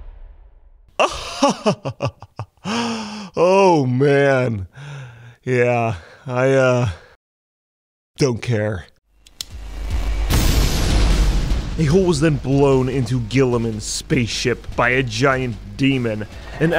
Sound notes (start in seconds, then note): 1.0 Lorgar chuckling; 9.5 explosion booming